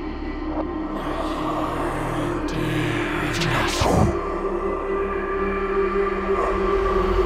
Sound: ghostly voice speaks foreign language

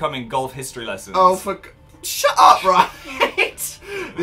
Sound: laughs

